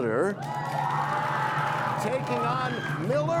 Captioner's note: cheers and applause